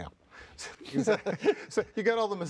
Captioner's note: both laugh